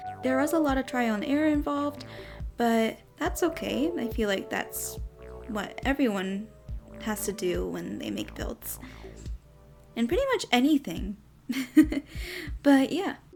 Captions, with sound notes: There was a lot of trial and error involved But that's okay! I feel like that's what everyone has to do when they make builds and pretty much anything! *giggles* But yeah!